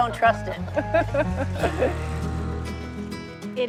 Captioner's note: both chuckle